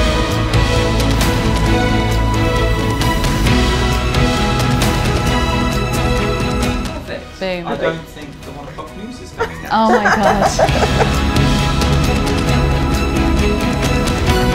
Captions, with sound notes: - Same. - I don't think the one o'clock news is coming next. (laughing) - Oh my gosh. (inspirational music continues)